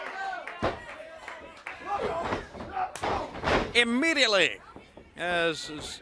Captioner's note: crowd chatter